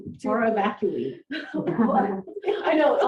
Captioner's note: laughter